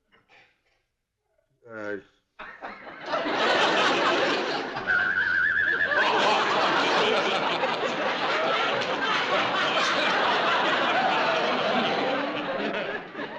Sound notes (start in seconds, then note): 4.8 whistling